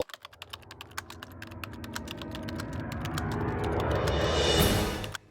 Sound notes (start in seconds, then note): 0.0 typing